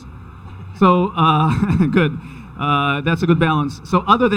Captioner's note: chuckles